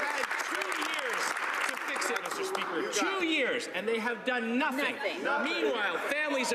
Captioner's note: applause